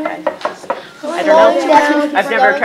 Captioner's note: chatter